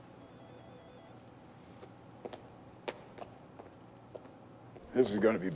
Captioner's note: footstep